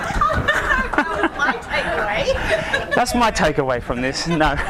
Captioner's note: laughing; voiceover